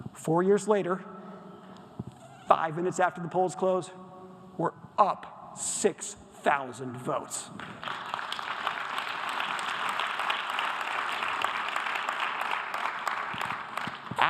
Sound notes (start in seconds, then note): 7.7 audience applause